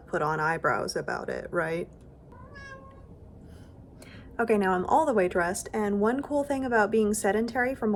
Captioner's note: meow